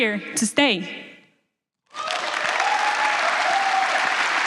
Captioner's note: applause